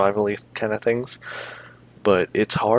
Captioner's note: big inhale